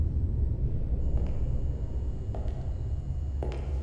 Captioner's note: buzzing